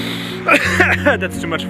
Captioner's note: coughs